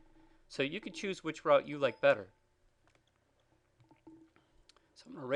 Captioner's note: computer chimes